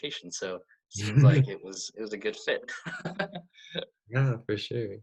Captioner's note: laughs